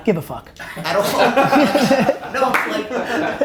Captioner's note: group laughter